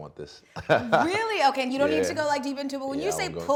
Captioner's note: laughing